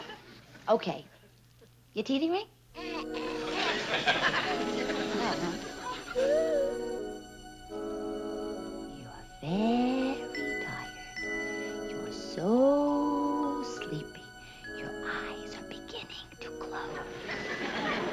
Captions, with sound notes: Okay, your teething ring? (giggles) You're very tired. You're so sleepy. Your eyes are beginning to close.